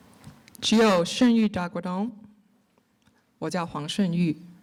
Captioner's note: speaking in Cherokee; speaking in Mandarin